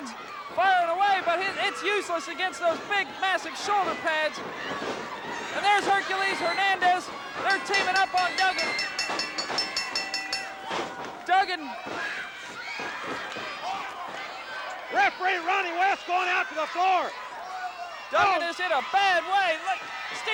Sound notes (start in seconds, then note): 10.4 bell dinging